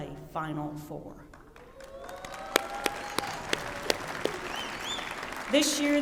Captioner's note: applause